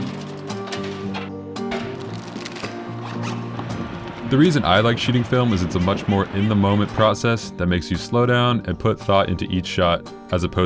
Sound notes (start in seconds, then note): 1.8 zips bag